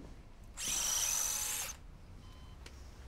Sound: device whirs

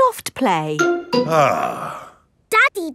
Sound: sighs

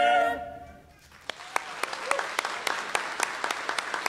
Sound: applause

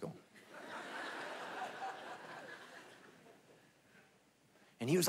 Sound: congregation laughing

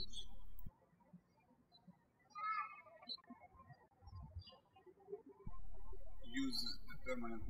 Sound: birds chirping

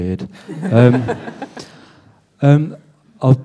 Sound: laughter

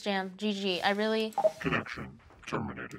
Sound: computer beeps

